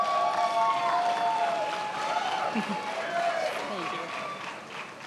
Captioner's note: attendees applauding